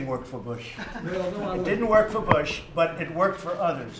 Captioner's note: laughter